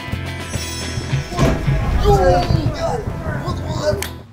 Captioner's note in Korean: 끙끙대는 소리